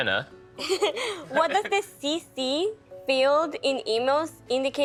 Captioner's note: laughing